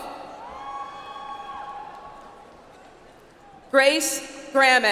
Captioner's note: audience applauds